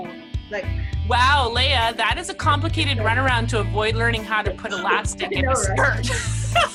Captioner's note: laughing